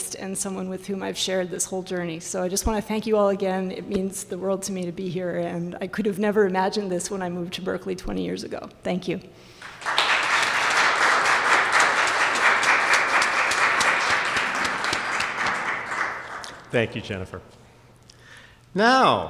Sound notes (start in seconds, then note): 9.6 applause